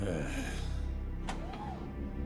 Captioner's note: Kyle groaning